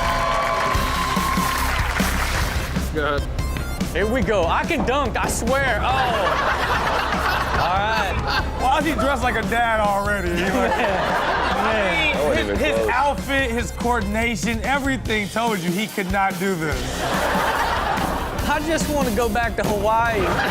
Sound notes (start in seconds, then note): 0.1 rock music; 5.8 Chanel laughs; 7.0 audience gasps; 10.2 Rob, Chanel, and audience laugh; 16.8 audience laughs